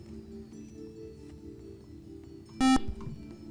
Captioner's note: buzzer